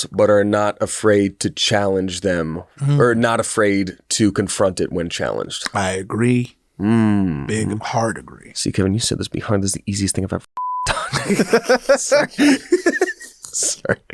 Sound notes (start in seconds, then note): 10.6 beep; 10.9 all laugh